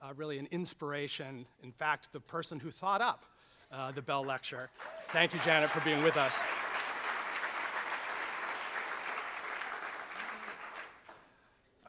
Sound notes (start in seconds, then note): 7.0 applauding